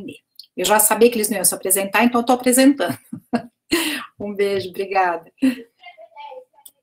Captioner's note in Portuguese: risos